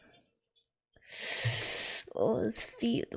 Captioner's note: sharp inhale